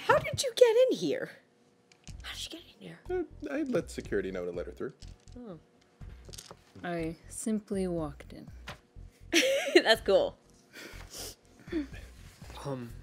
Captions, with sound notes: - How did you get in here? How did she get in here? - I let security know to let her through. - Oh. - I simply walked in. - (laughs) That's cool.